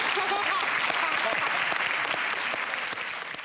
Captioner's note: audience applauds; giggles